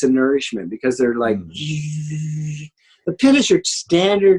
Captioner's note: makes buzzing sound